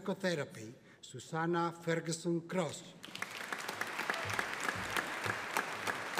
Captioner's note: audience applauding